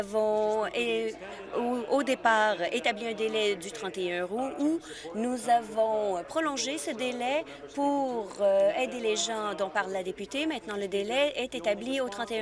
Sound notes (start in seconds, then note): none